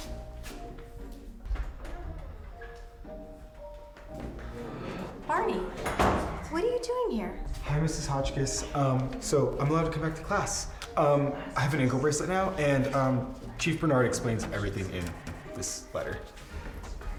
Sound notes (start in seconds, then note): 0.0 gentle soft suspenseful music; 0.0 footsteps tapping; 2.5 door creaks; 4.4 students gasp; 5.7 door thuds; 16.9 soft gentle dramatic music